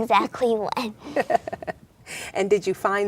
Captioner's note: laughs